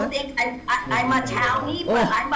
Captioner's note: faintly speaking